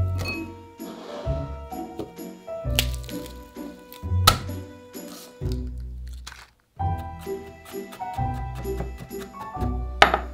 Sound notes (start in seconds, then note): 2.8 smash; 2.8 garlic paper rustling